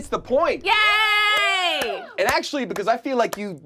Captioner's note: group cheers; claps